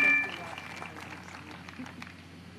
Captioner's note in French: applause